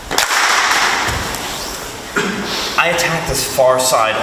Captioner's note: group claps